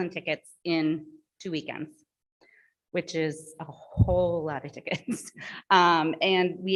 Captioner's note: chuckles